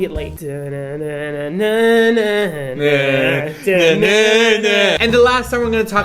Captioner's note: humming to the song